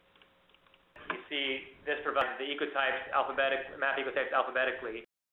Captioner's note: mouse clicking